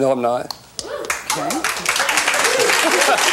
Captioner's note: audience claps; laughs